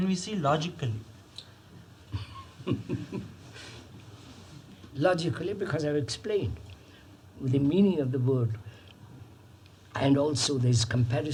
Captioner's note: laughs